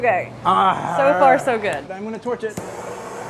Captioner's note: groaning